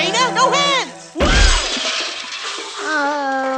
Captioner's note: groans; crash